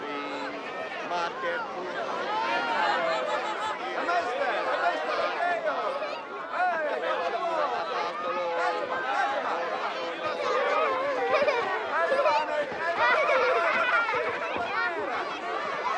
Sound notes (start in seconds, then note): 1.6 speaking in illyrian language